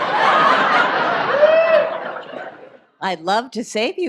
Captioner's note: audience laughs